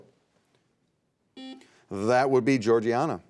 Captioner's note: buzzer beeping